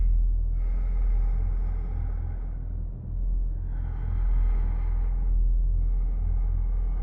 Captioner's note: ominous music; breath huffing